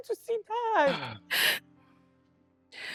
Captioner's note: clears throath